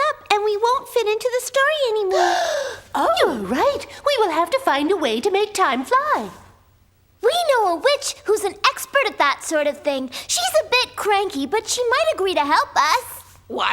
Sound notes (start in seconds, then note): 2.1 gasps